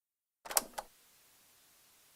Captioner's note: casette Noise